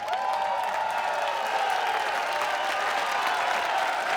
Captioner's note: audience cheering